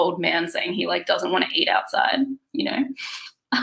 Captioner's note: laughs